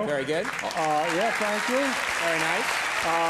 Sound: audience cheers and applauds

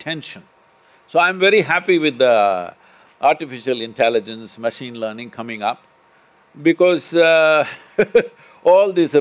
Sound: laughs

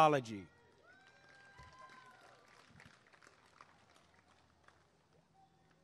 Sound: applause and cheering

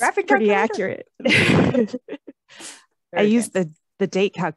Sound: laughter

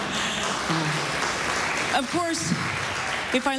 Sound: applause

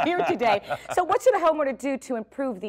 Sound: laugh

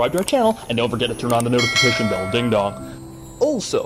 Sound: ding dong

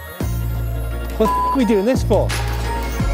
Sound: beep; groovy music

